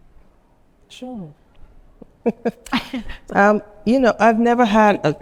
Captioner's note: chuckles